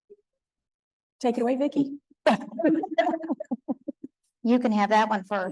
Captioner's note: laughing